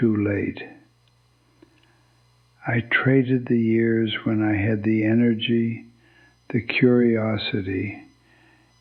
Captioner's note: whispers